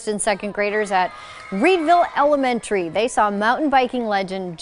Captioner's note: people yelling